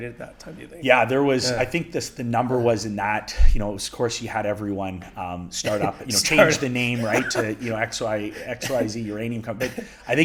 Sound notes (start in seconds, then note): 5.7 laughs